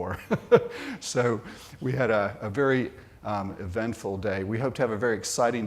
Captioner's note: laughs